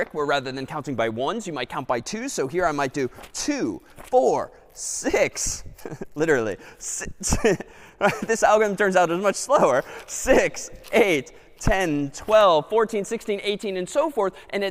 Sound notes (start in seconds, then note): 8.0 laughs